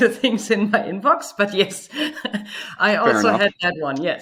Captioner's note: laughs